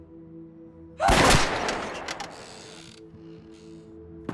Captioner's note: screams